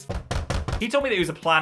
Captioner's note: door knocking